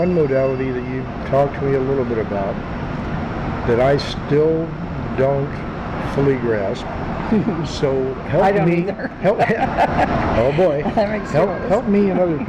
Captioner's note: laughs